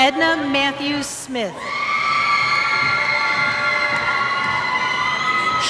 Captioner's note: cheers